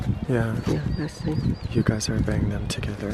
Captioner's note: speaking in foreign language; voiceover